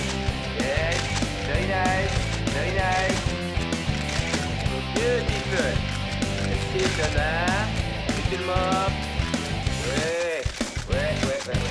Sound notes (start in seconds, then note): 0.7 French accent